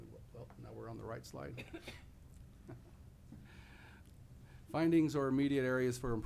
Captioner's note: laughing